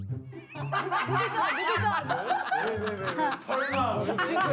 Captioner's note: one of them is laughing extra hard